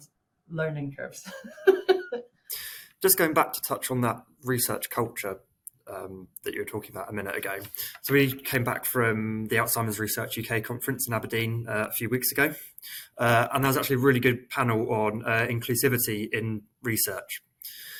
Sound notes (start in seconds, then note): 1.3 laughing